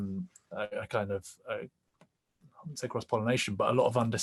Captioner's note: murmurs